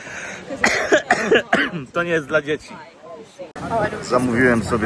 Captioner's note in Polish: kaszel